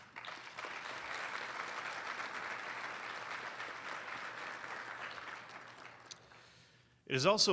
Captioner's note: applause